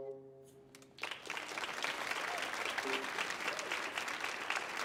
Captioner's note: lively music continues; audience applauding